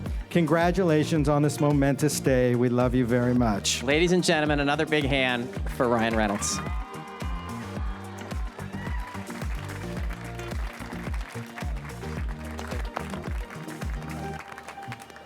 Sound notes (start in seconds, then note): 7.4 attendees applaud and cheer; 12.2 upbeat music